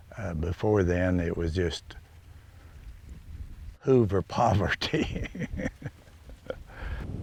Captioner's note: laughs